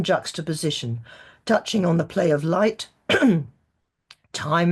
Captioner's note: clears throat